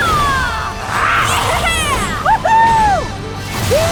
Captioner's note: cheering